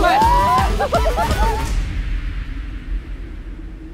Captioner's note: Laughing